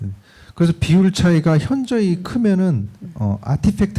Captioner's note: speaking korean